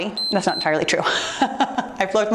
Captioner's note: timer beeps